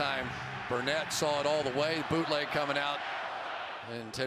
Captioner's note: cheering